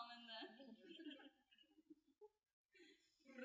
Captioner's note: giggling